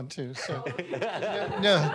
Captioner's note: laughter